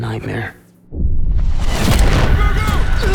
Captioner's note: loud explosion